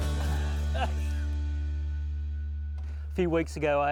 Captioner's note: laughs